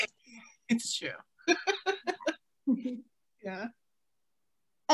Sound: laughing

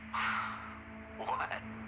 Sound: Captain Perry scoffs

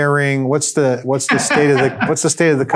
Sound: laughs

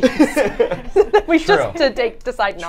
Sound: both laughing

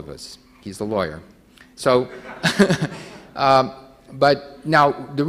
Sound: everyone laughing

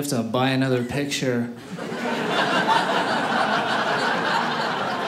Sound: audience laughing

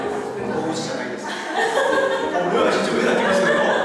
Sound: laughing

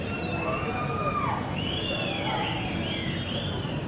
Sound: people screaming excitedly

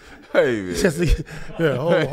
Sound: laughs

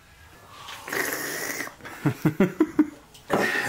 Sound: slurps; laughs

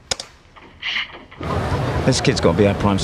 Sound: person sneezes

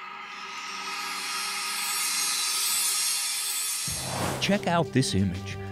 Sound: sound Effects

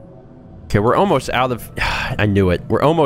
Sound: sigh

